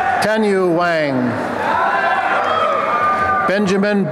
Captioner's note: applause and cheering